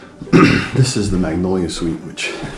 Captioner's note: clears throat